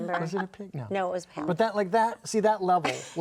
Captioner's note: laughing